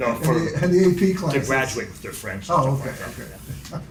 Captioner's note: laughs